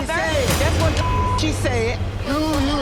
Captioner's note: beep